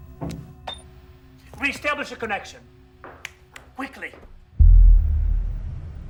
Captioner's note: snaps; tense music begins